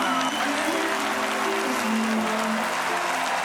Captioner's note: applause and quiet music